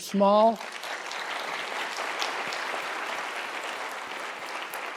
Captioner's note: applause